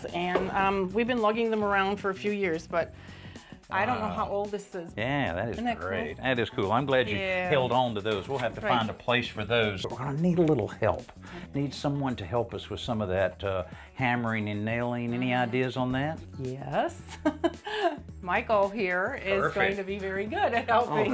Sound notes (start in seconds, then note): 17.1 chuckles